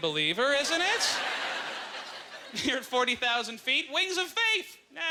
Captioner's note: audience laughter